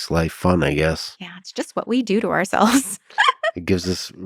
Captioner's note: laughs